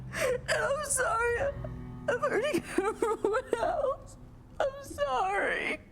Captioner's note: sobs